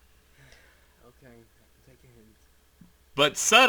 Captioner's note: sigh